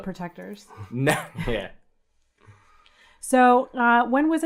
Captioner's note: laughs